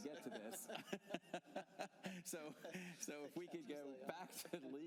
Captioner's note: laughter